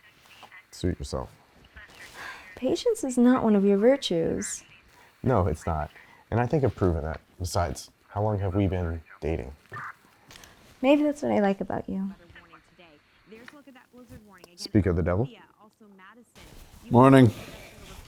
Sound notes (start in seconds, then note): 2.2 sighs